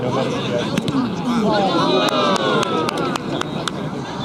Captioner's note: applause